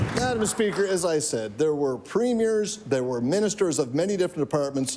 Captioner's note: applause